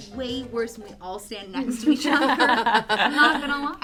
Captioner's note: all laugh